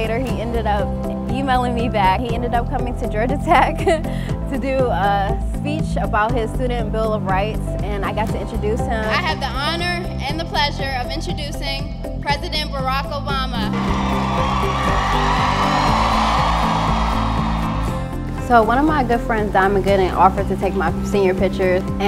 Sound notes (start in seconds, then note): 13.7 cheering